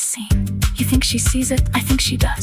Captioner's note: female voice 1